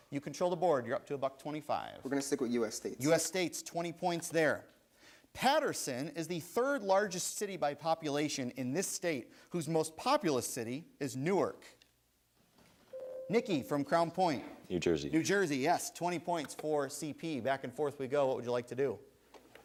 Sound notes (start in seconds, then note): 13.0 buzzer sounds